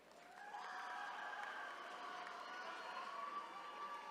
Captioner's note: attendees cheering